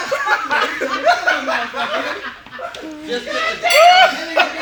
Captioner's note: group laughing